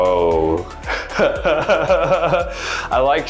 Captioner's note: chuckling